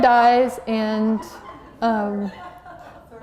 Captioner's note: laughter